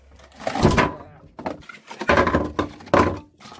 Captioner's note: a-clatterin'